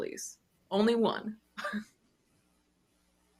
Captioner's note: chuckles